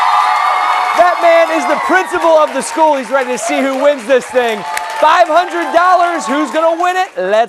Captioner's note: cheers and applause